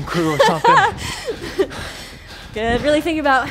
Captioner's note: laughs; breathes heavily